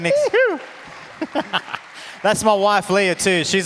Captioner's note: audience applauds